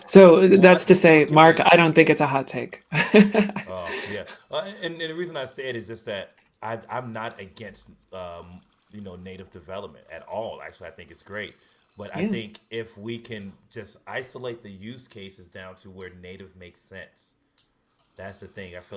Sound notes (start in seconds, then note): 2.8 laughs